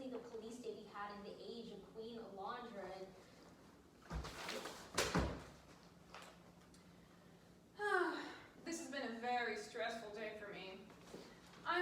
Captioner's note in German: seufzt